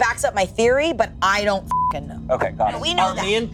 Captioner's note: beep